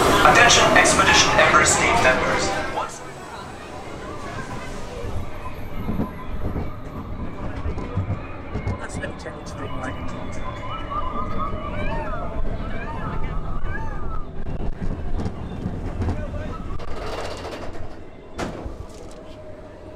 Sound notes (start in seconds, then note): 4.1 sirens; 6.1 wind blowing